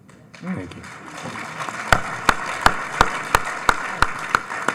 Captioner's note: audience applauding